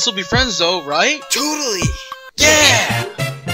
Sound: Popsicle Stick's "NOOO" continues in background; Popsicle Stick's "NOOO" continues in background

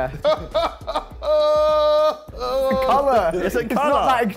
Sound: laughing

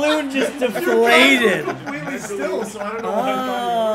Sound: laugh

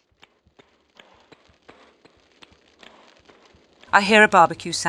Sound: noises of fire

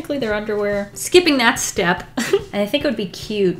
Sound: giggle

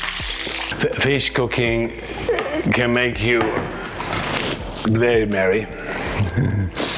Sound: laughs

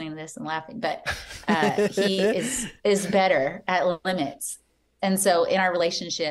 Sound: chuckle

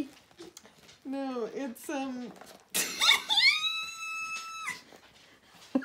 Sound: bursts into laughter

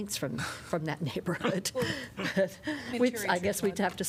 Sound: laughter

